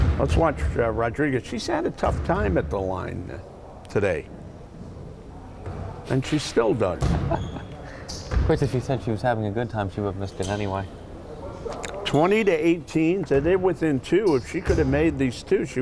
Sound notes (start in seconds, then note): 7.1 chuckles